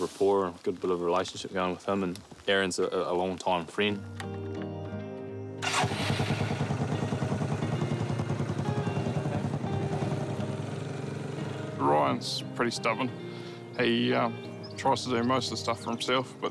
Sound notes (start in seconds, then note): 5.6 quad bike starts; 8.3 light guitar music